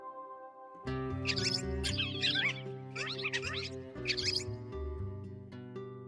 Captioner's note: squeak squeak squeak